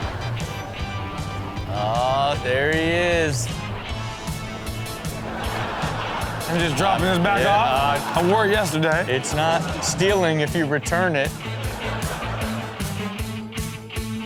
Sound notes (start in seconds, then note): 5.4 audience laughs; 11.3 crowd laughing